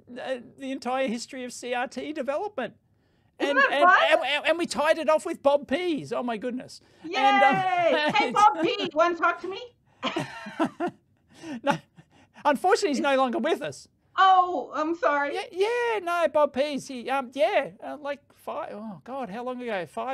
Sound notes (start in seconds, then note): 10.1 chuckling